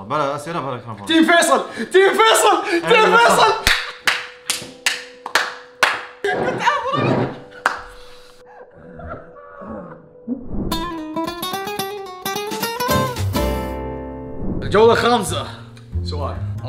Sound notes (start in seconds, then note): 3.6 claps; 3.6 sad music plays